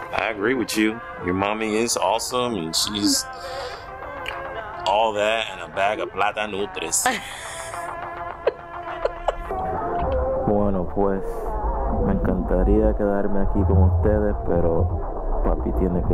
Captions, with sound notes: I agree with you, your mommy is awesome, and she's all that and a bag of (speaks in Spanish). (Papi speaks in Spanish)